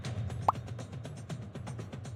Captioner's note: pop